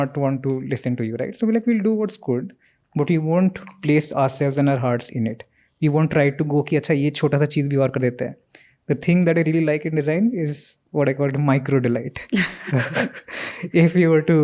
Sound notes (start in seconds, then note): 8.2 speaks in Hindi